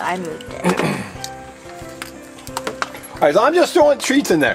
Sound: Mr. Engineer clears throat

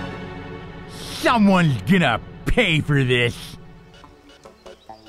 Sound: lisping

